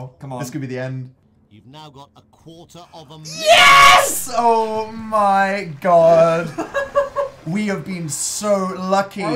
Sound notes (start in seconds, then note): 6.4 laughs